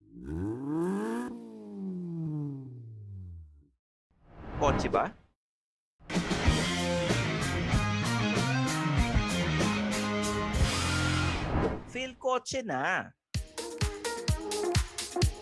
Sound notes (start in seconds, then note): 0.0 engine revs